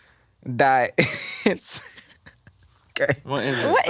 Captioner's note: laughs